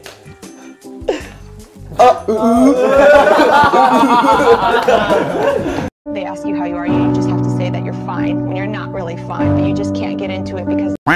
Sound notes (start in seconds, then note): 2.0 127 laughs